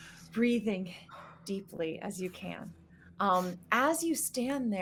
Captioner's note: gasping